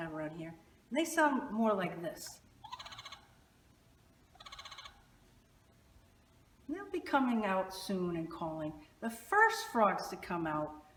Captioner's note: frog calls